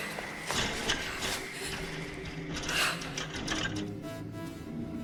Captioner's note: doorknob clattering